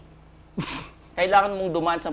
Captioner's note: scoffs